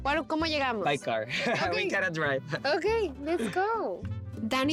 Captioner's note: laughs